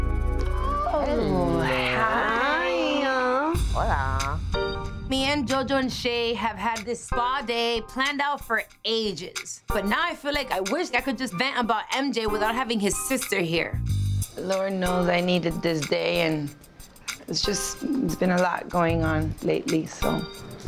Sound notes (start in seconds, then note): 2.9 speaking in foreign language